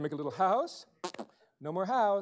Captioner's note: splat sound